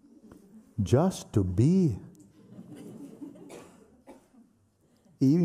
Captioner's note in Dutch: gelach